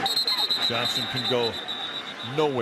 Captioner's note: whistle